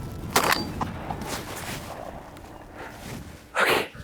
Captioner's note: gunshot